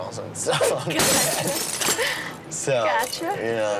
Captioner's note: laughing